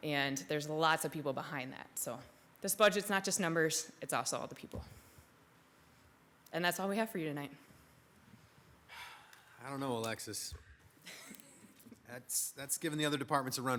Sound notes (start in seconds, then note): 11.2 attendees laugh